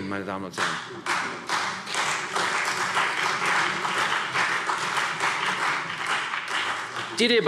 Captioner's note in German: Beifall CDU